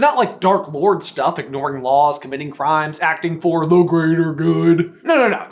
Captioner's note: mocking